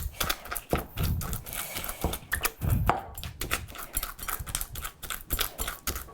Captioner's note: pounding